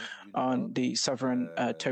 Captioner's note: speaking French